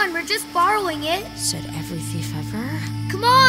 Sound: whispering

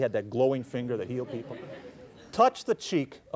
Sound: laughter

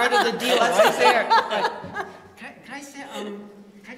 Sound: laughter

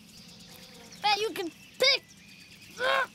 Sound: grunting

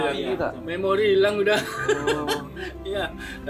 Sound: laugh

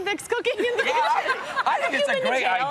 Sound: laughter

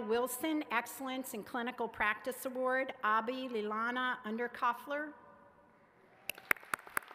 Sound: applause

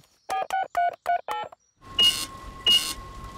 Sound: dialing; cash register beeping

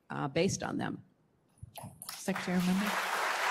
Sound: applause

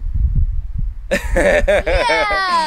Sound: laughter

